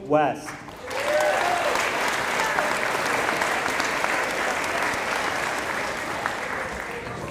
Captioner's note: applause